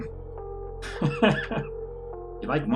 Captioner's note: Musky laughs